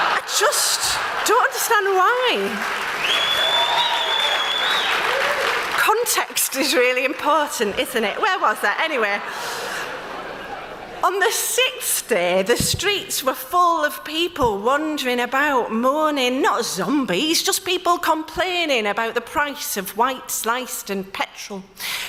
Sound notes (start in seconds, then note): 1.7 applause